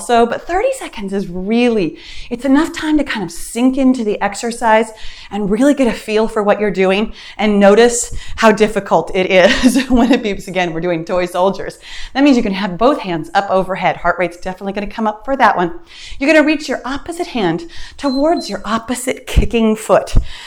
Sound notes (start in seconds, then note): 17.9 timer beeps